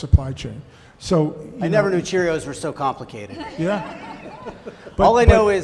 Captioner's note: laughter